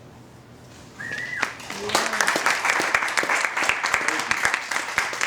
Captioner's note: applause and whistling